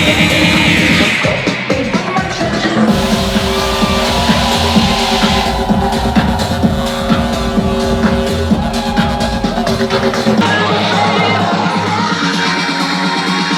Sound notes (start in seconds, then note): 2.8 hype electronic dance music; 2.8 crowd cheering; 10.5 beat building up